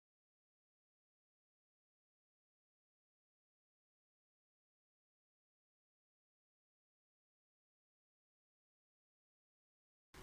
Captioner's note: silence